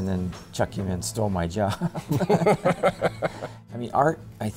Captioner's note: laughing